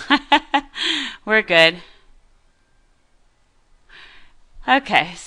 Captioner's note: laughter